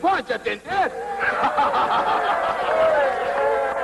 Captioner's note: cheering and clapping